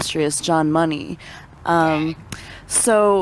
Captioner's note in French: beurk